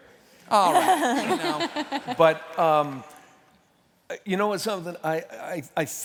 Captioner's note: laughter